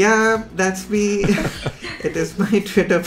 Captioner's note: all laughing